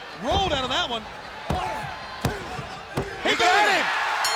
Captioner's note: hand thudding